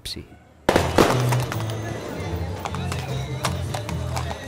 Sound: horse trotting

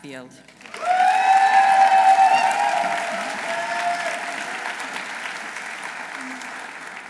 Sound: audience applauding; audience cheering

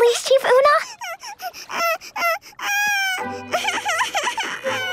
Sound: crying

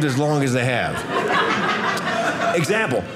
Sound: audience laughing

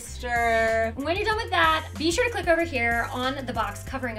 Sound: futuristic zoom

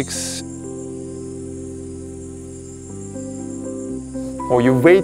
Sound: bugs at night

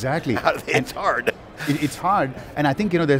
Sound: laughs

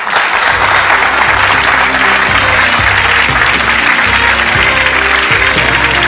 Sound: audience claps

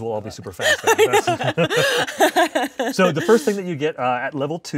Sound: laughing

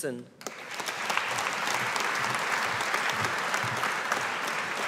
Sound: audience applauding

